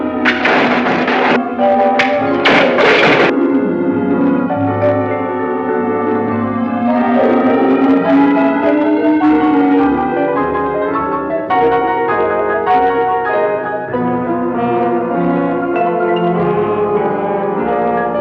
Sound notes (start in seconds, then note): 2.7 static crackling; 9.6 suspenseful instrumental music